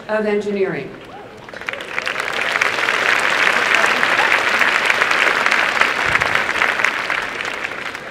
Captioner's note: applause